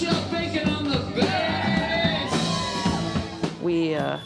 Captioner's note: cheers and applause